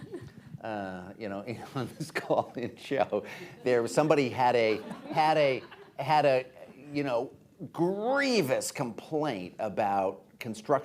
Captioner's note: laughter